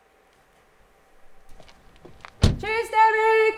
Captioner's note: the sound of a van leaving